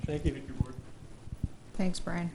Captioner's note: murmurs